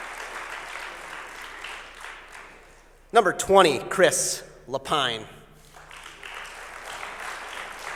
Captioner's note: applause